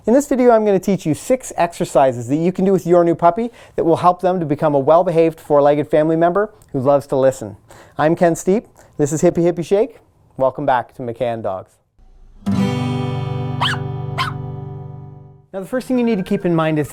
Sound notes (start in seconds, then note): 12.0 acoustic instrumental music; 13.6 dog barking